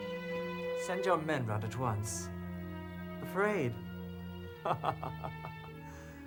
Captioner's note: laughs